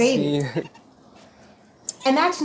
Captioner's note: man speaking in foreign language